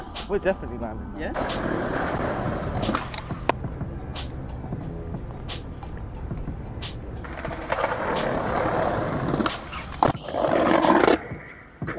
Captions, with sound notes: - Huh? - We're definitely landing that. - Yeah? (skateboard rolling) (upbeat music) (skateboard rolling)